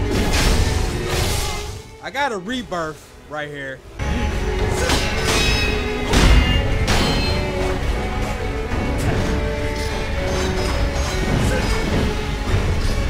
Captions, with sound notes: I got a rebirth, right here. (intense sword clashes)